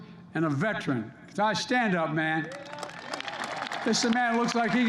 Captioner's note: applause